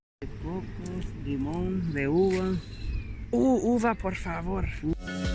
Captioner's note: speaks in foreign language; smooth groovy music